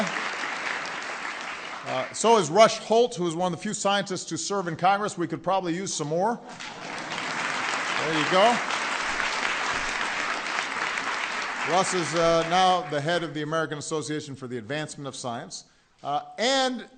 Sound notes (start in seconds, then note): 6.5 applause